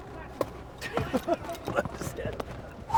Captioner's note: laughs